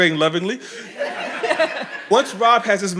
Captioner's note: audience laughing